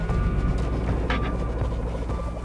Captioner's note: guinea pig noises